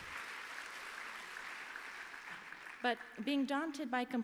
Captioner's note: applause